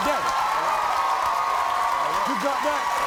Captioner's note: crowd cheers